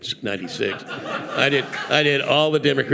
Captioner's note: audience laughing